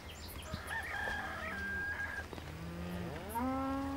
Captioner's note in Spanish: animales llamando